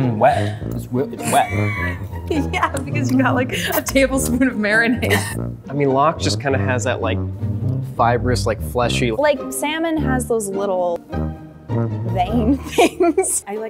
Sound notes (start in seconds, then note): 1.2 laughs